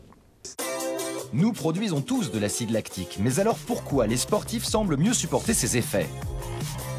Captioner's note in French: Voix Off